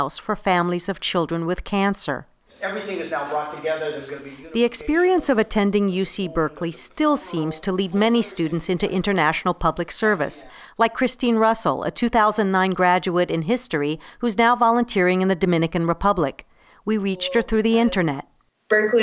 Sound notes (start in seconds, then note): 4.7 voiceover